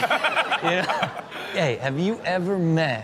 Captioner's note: Steelo laughs